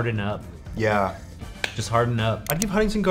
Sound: smacks fist

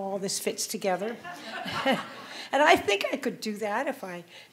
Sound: audience laughing

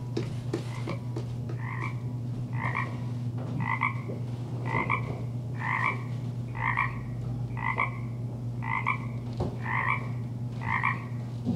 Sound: croaking frogs

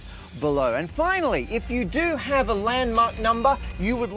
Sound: rings bell

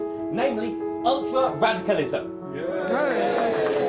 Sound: cheers

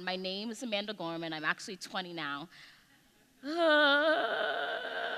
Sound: groans

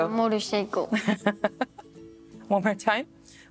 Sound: laughs

